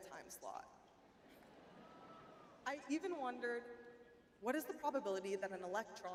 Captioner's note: audience laughing